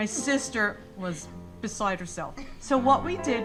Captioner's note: sister laughing